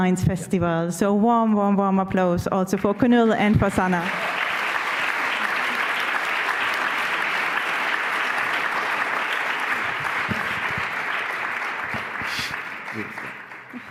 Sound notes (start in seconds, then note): 4.9 applause